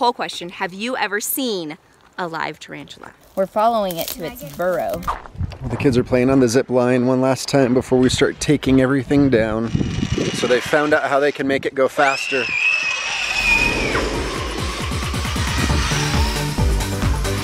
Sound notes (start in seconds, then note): 12.0 screams; 14.3 upbeat music